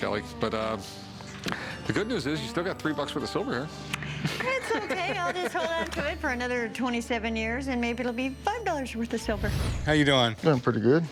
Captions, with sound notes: But, uh, the good news is you still get three bucks worth of silver here. -[Rick laughs] -It's okay. I'll hold on to it for another 27 years and maybe it'll be five dollars' worth of silver. -How you doing? -Doing pretty good.